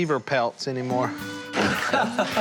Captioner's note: laughs